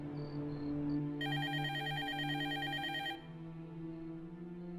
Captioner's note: telephone ringing